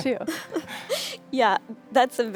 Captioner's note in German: lachen